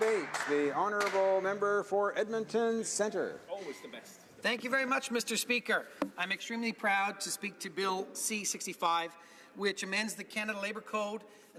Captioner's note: some applause